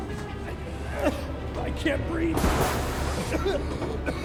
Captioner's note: coughs; coughing